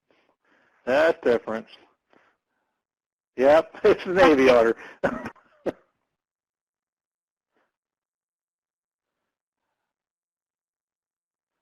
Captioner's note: laughing